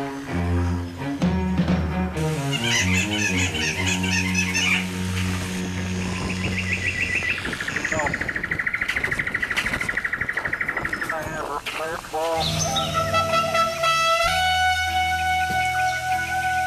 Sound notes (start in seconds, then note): 2.4 monkey yelling; 6.0 bird chirping; 12.3 horn playing